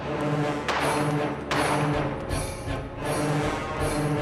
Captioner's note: dramatic music continues; gunshots popping